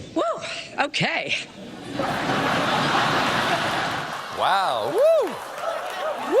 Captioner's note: laughter